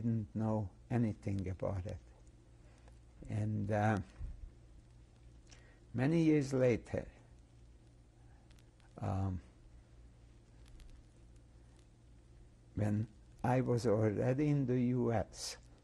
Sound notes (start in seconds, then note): 6.9 pauses for 6 seconds